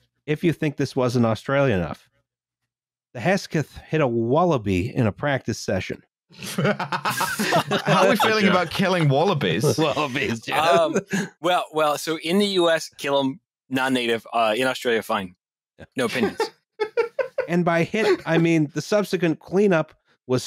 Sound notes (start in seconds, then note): 6.4 laughter; 10.1 laughing; 16.8 laughs